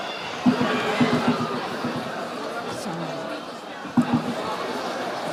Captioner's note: audience chattering